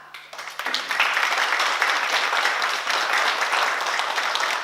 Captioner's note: oklaski